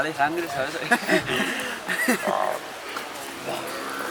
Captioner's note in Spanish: risas